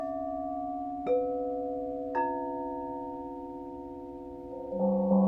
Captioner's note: bells dinging melodically